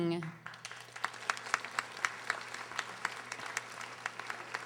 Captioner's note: audience applauding